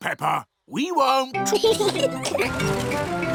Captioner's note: both giggling